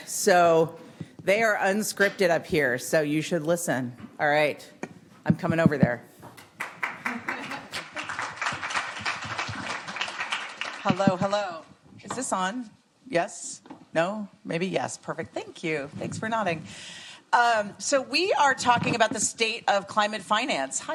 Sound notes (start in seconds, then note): 6.5 applause